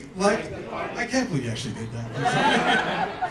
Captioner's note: laughter